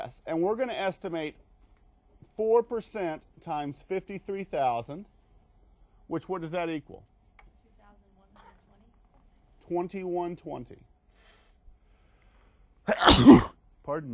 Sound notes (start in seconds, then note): 12.8 sneezes